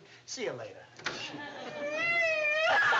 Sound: sobbing

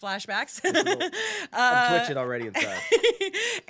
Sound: laughing

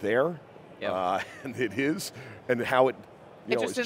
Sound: chuckles

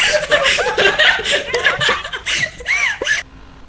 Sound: laugh; over Radio

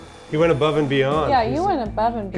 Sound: drill whirring

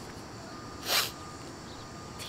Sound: sniffles

